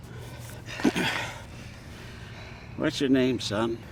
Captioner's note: clears throat